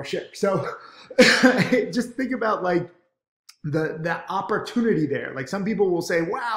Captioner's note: laughs